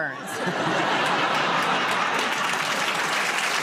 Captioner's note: laughter; applause